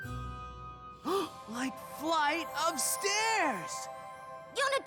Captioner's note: gasp